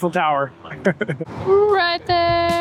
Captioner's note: laugh